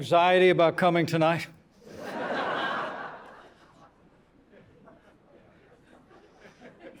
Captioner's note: laughter